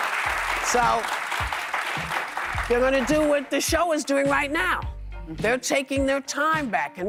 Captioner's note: applause